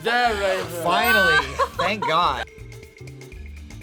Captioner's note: laughs